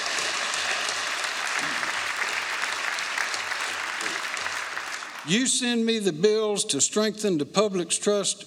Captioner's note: applause